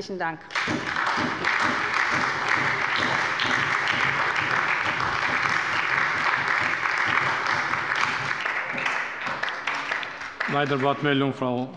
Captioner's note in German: Beifall bei der SPD